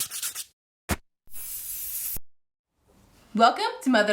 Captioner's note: spraying sound